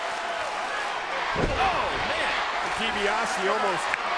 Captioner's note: blow thudding